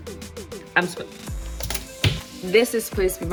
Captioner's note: hand bangs table